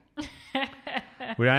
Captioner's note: laughs